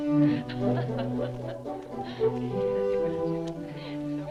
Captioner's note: collegial music; women chattering